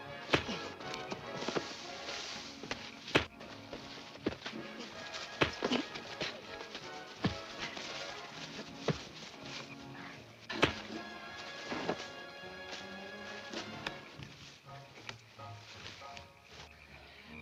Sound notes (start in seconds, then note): 0.2 fists thuds; 10.1 lively music; 10.5 fists thuds continues